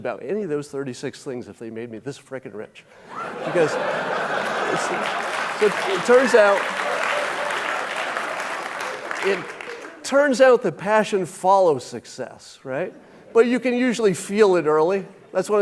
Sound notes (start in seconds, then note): 3.0 audience laughing; 5.7 audience clapping